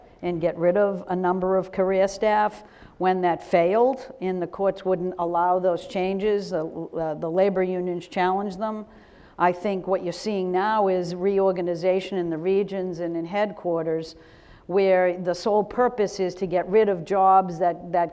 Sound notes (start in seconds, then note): none